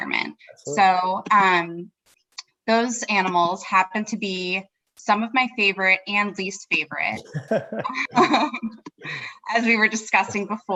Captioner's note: laugh